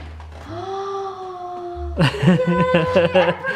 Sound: gasping

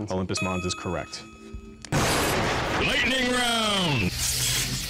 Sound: intense male voice

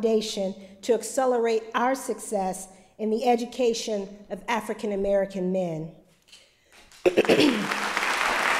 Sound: applause

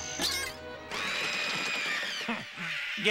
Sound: birds screaming

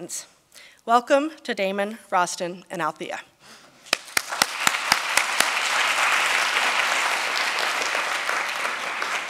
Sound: applause

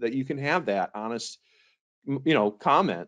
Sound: none

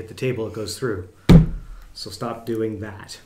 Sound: hitting the table

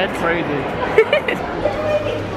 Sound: giggling

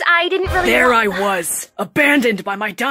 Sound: sigh

